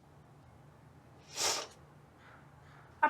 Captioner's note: sniffles